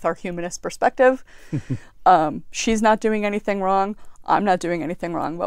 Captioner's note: laugh